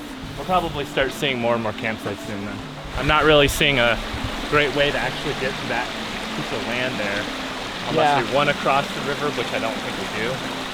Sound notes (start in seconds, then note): none